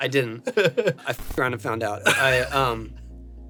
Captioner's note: audio warps